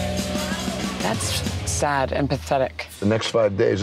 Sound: beeps

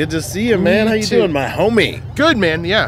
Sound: laughs

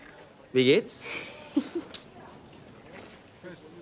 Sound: giggles

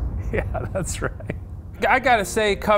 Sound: laughing

